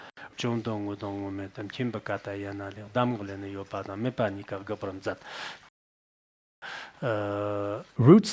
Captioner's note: citing scripture in Tibetan